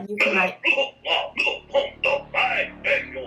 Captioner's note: coughing off-screen